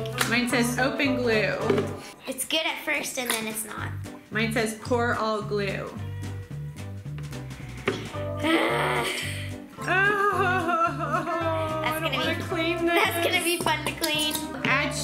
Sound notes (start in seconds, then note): 8.2 groans; 10.1 whines